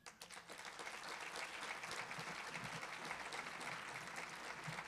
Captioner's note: audience applauding